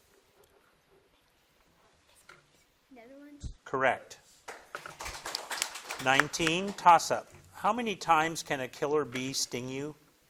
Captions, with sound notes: - Netherlands. - Correct. (crowd claps) 19, toss up. How many times can a killer bee sting you?